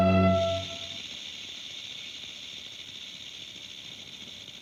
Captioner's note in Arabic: خشخشة الثعبان